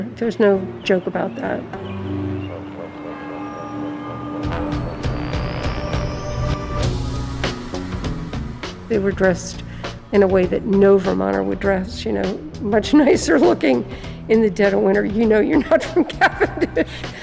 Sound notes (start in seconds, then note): 3.4 church bell ringing; 4.2 tense music